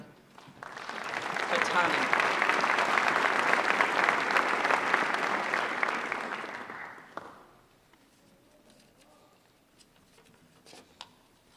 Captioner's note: applause